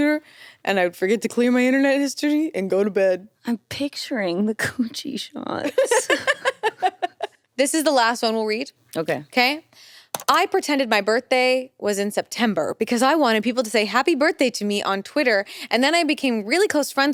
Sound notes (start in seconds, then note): 5.6 laughs